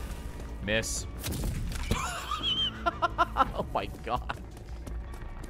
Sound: laughs

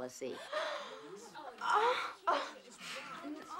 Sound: gasping

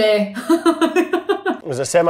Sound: Elizabeth laughs

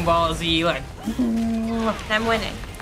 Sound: humming

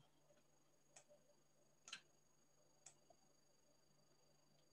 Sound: mouse clicks

